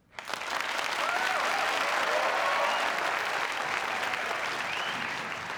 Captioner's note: applause